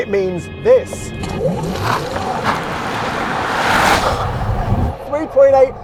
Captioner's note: uncomfortable noises